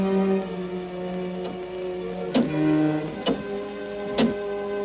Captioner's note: suspenseful music; clock ticks